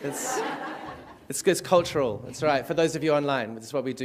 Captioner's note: laughter